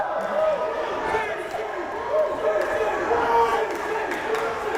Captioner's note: crowd chanting